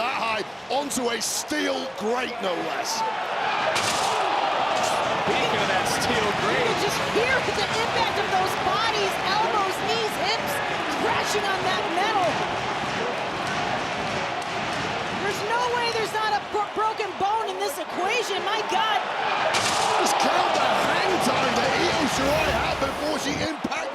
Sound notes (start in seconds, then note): 3.6 applause; 12.6 applause